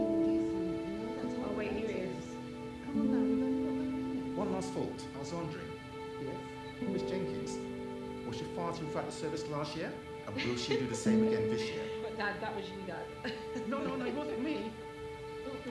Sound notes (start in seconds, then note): 13.2 Diane and Evelyn laughing